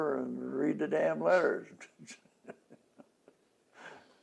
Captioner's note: laughs